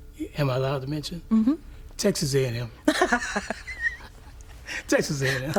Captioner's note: both laugh